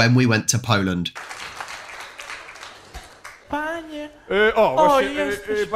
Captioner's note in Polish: Aplauz